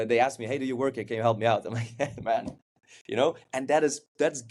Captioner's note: chuckles